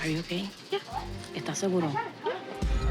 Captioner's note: speaking Spanish